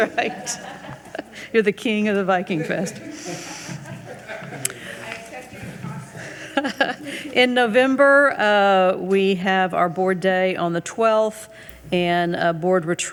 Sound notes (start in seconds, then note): 7.1 laughs